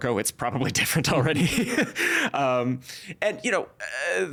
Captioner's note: laughing